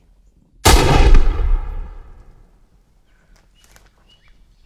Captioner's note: gun fires